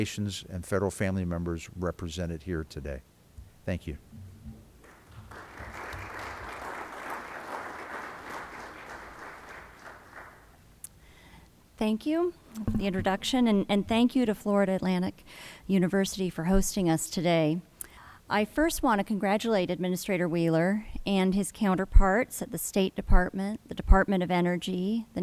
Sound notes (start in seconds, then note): 4.8 applause